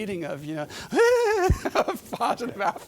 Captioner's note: giddy laughing